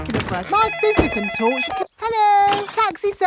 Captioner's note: cellphone ringing